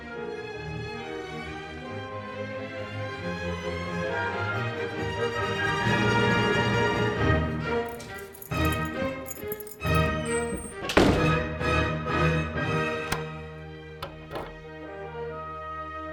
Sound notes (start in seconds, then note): 9.7 door shuts; 14.0 door locks; 14.8 classical music continues